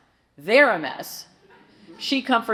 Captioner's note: audience chuckles